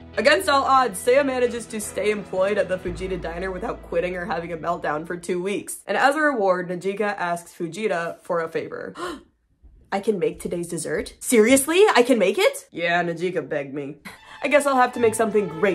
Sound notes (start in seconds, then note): 8.9 gasp; 14.2 classical music